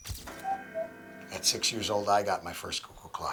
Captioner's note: cuckoo clock